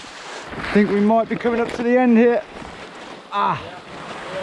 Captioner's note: groans